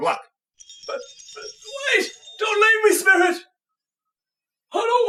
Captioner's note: chimes